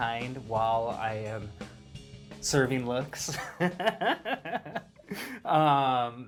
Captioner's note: laughs